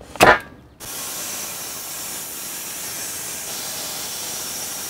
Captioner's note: power saw rattling